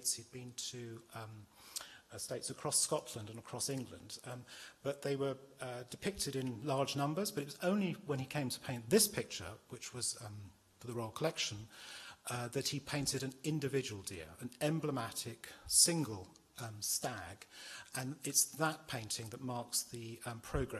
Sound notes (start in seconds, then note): none